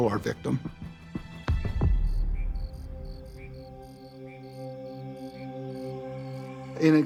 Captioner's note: crickets chirping